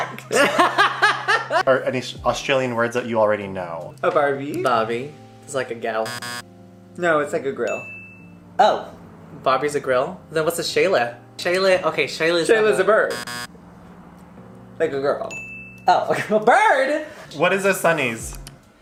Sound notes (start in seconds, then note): 0.0 laughs; 4.6 in an Australian accent; 8.6 rock; 15.8 rock; 16.3 exasperated; 18.6 rock